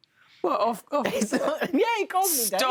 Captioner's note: laughs